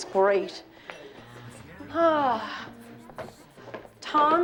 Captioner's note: sighs